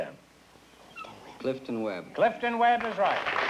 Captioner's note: whispering